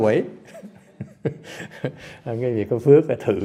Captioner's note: laughter